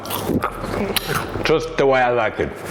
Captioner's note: potato crunching; lips smacking